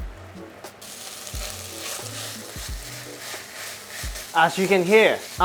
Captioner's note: sizzling sound